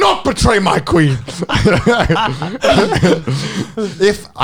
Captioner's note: chuckles